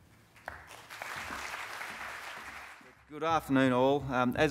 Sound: crowd clapping

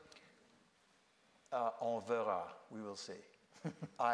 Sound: speaking foreign language

